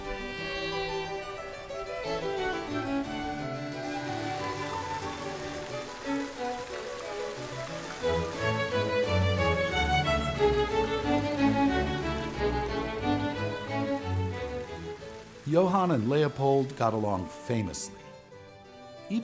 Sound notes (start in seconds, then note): 4.1 gentle hopeful music; 4.1 water whooshing